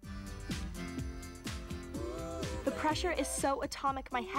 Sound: none

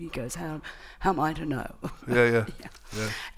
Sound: laughs

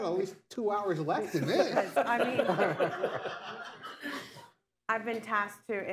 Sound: laughter

